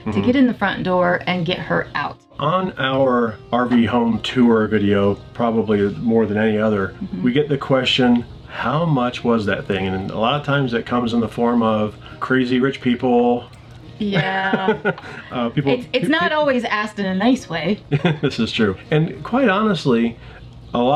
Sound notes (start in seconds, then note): 14.0 laughing